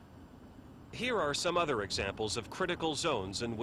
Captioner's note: voiceover